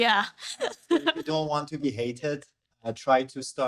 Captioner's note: laughing